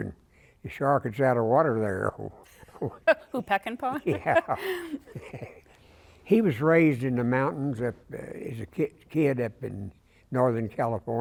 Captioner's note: laughter